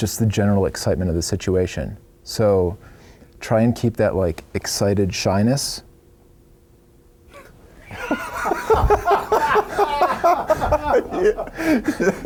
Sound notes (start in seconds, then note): 7.8 laughing